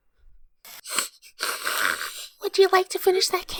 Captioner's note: sniffling